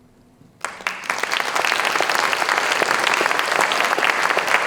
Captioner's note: applause